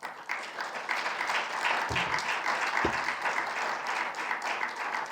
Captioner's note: participants applauding